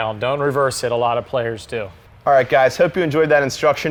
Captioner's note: none